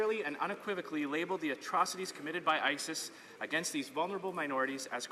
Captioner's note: none